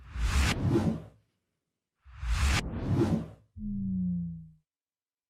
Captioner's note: graphic swooshing